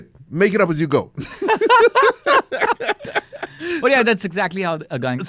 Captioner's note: laughs